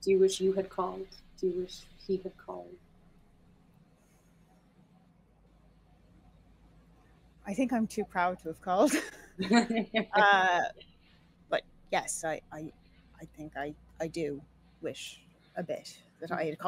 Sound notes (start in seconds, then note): 9.4 laughing